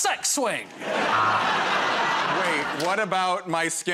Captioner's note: laughter